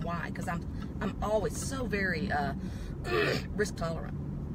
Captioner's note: clears throat